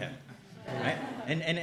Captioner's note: chuckles